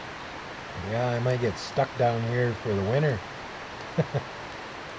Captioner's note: laughter